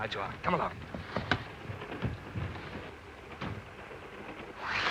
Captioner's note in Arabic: ينزلق الباب مفتوحا ومغلقا; يغلق الستار